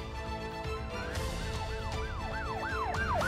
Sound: siren

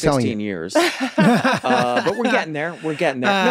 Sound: everyone laughs

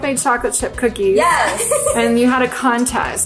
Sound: laughs

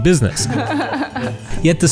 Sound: laughs

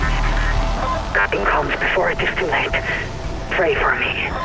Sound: resounding static accompanied by shrill echoey noises; heavily distorted voice

